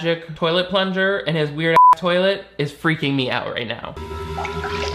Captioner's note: beep